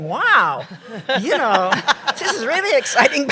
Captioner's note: laughter